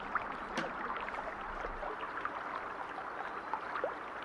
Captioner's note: birds singing